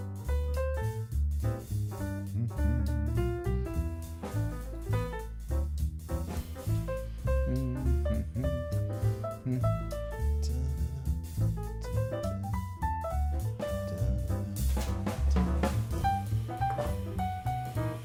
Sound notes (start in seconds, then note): 2.3 humming; 4.6 upbeat jazz music; 7.2 humming; 12.8 upbeat jazz music